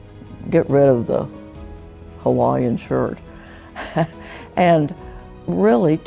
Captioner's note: chuckling